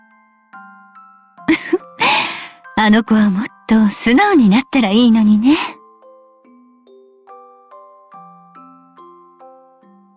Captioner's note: laugh